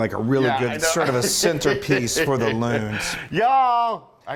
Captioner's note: laugh